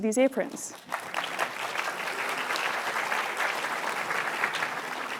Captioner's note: applause